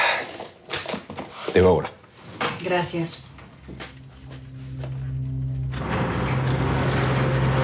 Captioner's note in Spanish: Ruido al abrir el portón